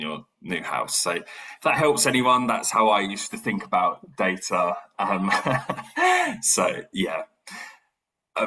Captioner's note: laugh